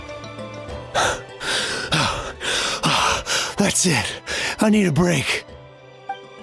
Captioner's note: panting